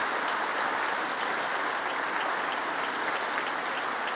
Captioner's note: congress applauding